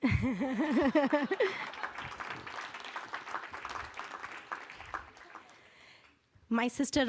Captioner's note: laughter